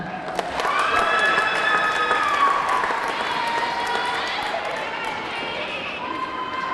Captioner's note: audience clapping; audience cheering